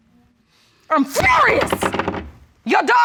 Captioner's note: gavel clatters